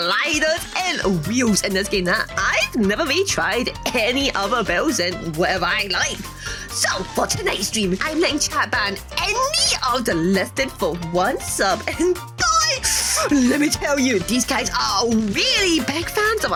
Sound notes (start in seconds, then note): 13.0 deep inhale filled with regret